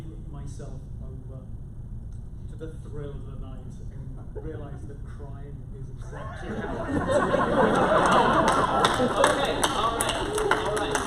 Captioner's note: laughter